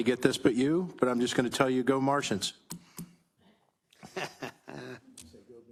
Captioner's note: laughs